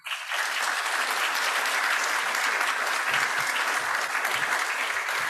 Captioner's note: people applauding